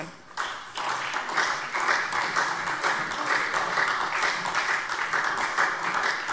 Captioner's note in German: Beifall SPD, BÜNDNIS 90/DIE GRÜNEN und DIE LINKE